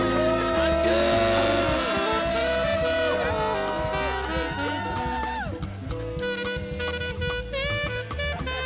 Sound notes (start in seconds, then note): 2.7 students cheering